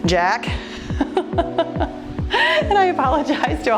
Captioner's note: laughs